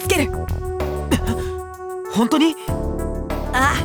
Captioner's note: gasp